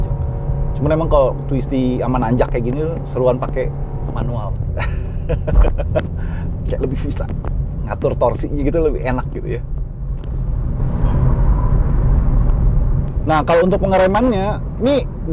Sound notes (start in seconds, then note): 4.7 laughing